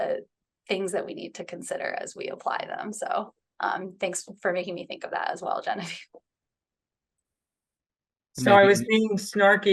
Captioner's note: laughs